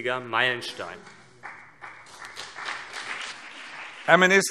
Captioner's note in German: Beifall CDU und BÜNDNIS 90/DIE GRÜNEN